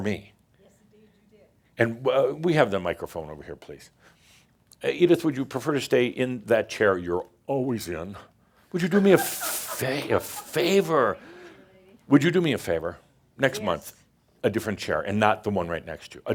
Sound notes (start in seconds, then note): 8.8 some chuckles